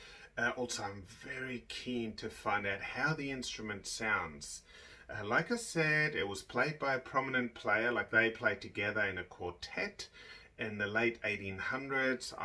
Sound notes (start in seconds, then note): none